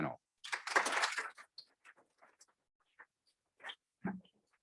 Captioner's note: audience clapping